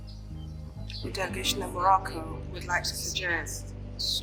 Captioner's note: interpreter in English